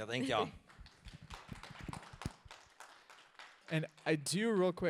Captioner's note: audience applauds